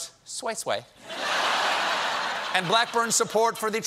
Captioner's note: laughter